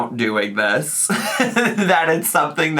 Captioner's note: laughs